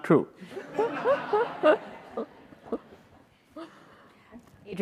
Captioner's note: everyone laughing